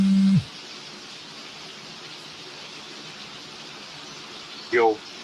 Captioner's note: phone buzzing; raining